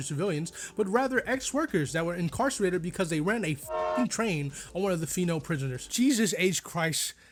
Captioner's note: choochoo